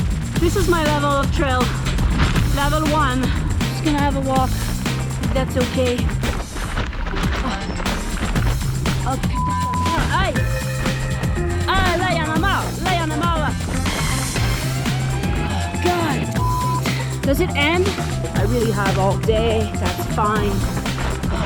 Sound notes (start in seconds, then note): 9.7 French